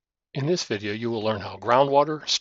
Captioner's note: voiceover